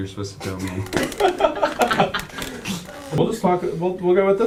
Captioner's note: both laughing